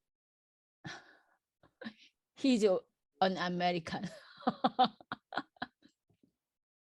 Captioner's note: laughs